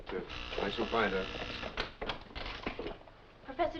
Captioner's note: door buzzing